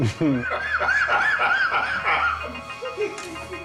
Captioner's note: laughing then thuds